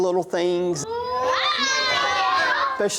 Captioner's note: kids screaming